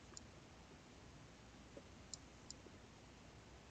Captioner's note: mouse clicking